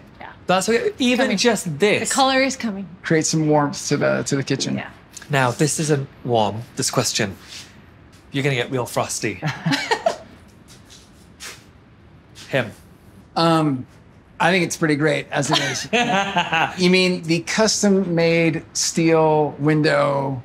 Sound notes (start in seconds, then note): 9.4 chuckle; 15.4 Tan laughs